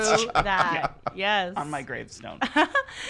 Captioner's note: laughs